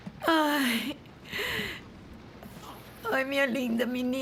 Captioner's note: none